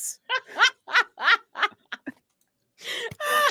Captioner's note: laughs